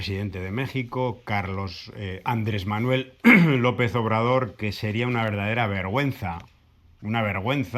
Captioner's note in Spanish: carraspeo